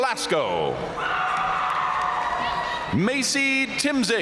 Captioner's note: audience cheering and applauding